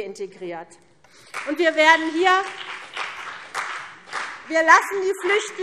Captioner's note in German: Beifall CDU und BÜNDNIS 90/DIE GRÜNEN